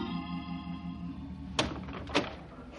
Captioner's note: door closes